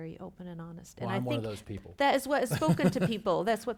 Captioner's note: laughs